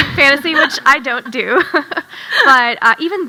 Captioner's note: chuckles